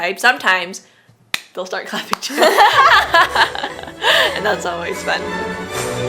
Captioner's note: clapping; laughs